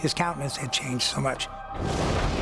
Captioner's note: thunder